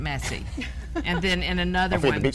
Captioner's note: laughing